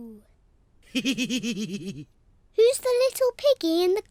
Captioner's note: laughs